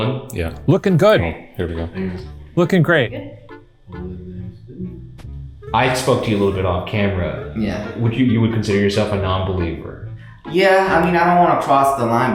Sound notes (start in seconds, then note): 4.0 crew member speaking faintly